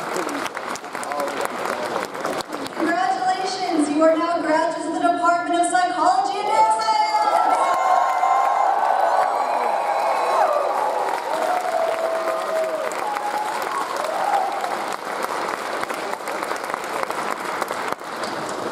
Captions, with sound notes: Congratulations, you are now graduates of the Department of Psychology and Neuroscience. (audience cheering) (audience applauding)